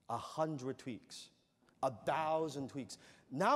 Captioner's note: none